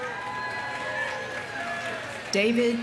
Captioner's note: audience cheering; audience applauding